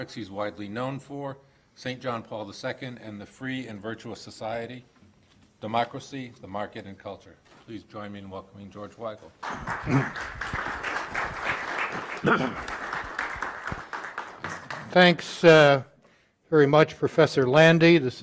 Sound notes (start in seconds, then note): 9.4 audience applauding